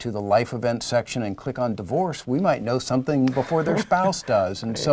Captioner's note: laugh